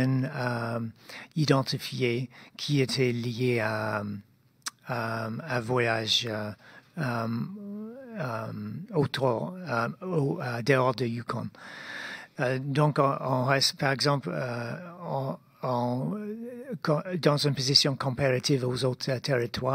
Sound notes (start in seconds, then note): 5.2 speaking in French